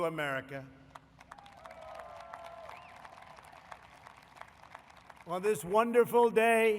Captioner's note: applause